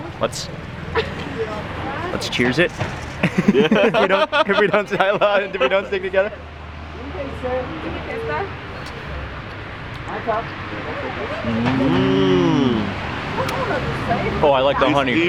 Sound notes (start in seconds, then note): 2.2 laughing; 7.2 woman speaking in foreign language